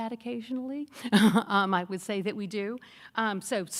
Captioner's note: chuckles